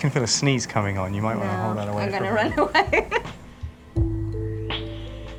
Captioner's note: laughs